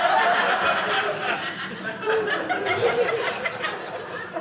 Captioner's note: audience laughing